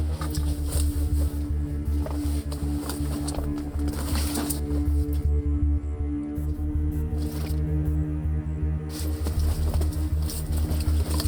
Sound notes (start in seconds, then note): 0.6 loud rifling